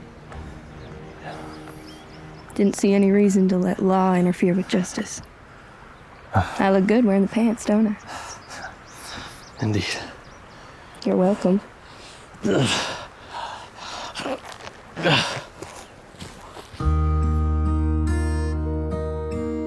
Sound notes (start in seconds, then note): 13.2 panting; 14.9 sighs